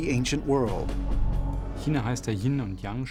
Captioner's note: speaking german